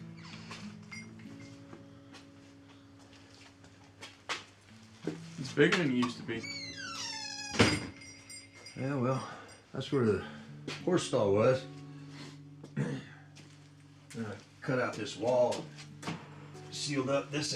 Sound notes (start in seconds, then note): 0.1 door creaks; 0.1 soft gentle music; 6.0 door creaks and thuds; 12.7 Abe clears throat